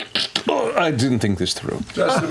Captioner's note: groans